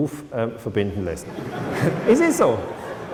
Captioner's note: laughter